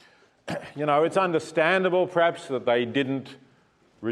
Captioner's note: cough